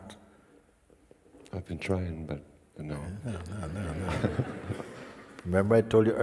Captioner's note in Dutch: gelach